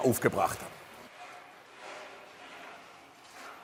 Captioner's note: distant scraping